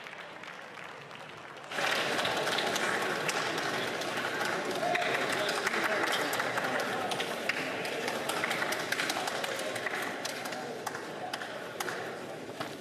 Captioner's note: some Applause